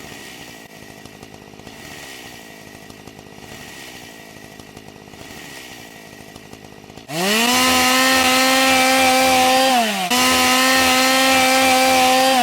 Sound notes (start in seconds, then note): 0.0 chainsaw sound; 3.3 chainsaw sound